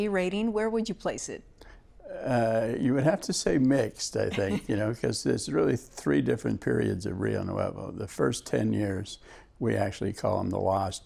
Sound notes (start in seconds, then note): 4.2 laughs